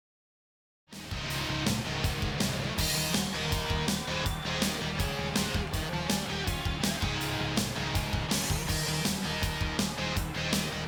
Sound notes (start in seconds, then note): 1.1 rock music plays; 4.3 crowd cheers